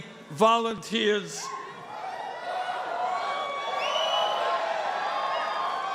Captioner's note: cheering and applause